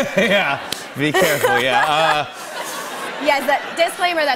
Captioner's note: laughter